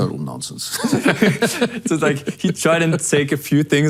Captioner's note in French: les deux rient